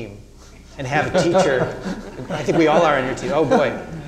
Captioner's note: all laughing